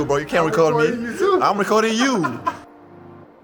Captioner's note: laughs